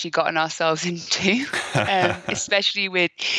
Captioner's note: laughing